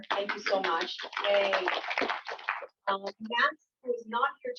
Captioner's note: applause